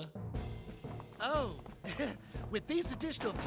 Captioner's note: chuckles